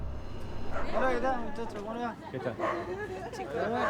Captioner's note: speaking Spanish